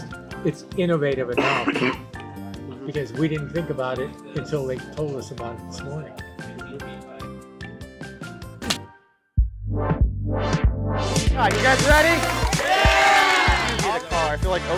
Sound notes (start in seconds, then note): 8.3 hands clapping; 9.8 upbeat funky music